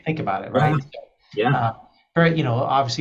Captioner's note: interviewer laughs